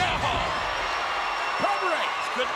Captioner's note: crowd cheers